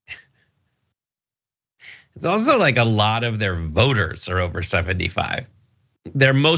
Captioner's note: laugh